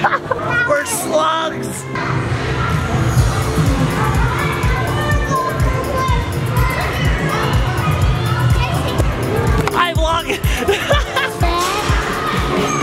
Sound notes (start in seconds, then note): 2.6 kids playing